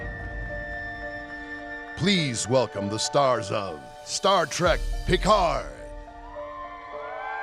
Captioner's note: applause